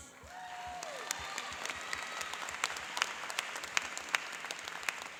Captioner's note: cheering and applauding